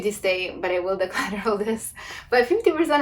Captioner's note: laughs